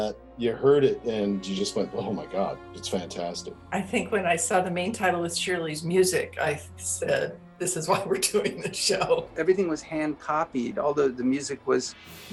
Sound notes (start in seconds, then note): 7.6 laughing